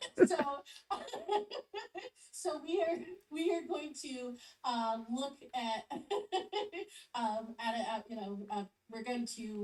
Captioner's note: laughs